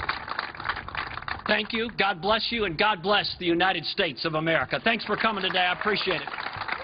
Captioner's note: applause